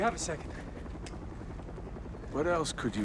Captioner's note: helicopter flying